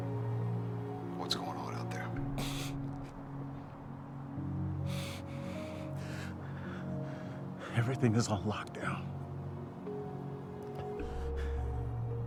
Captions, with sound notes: - What's going on out there? (Josh breathing heavily) - Everything is on lockdown.